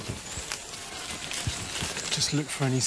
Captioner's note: lemur cry